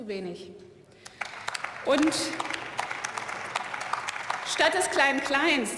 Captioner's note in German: Beifall